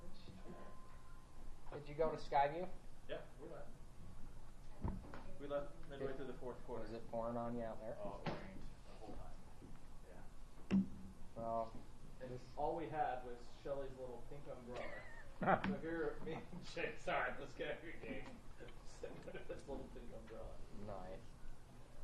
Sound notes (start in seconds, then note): 18.5 laughs